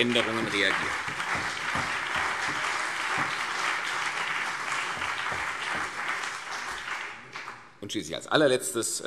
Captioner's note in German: Beifall CDU und BÜNDNIS 90/DIE GRÜNEN